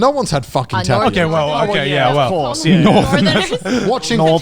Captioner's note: laughing